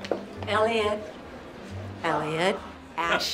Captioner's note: none